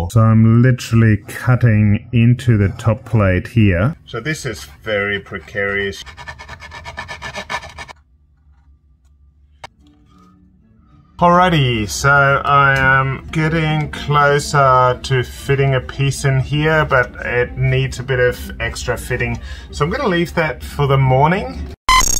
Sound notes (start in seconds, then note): 6.4 saw scratches; 10.2 classical music